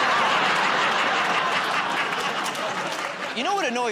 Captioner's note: laughter